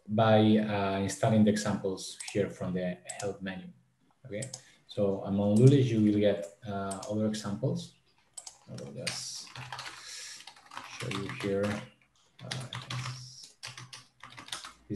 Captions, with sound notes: by starting the examples here from the help menu, okay? So, on LULESH you will get other examples. (mouse clicking) I will just show you here. (keyboard clattering)